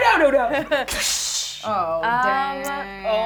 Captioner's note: imitates smashing sound